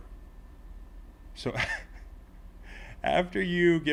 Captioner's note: laugh